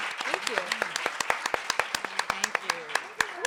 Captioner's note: audience applauding